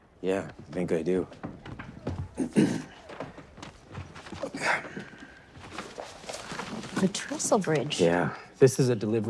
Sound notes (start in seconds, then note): 2.3 clears throat; 5.0 map rustling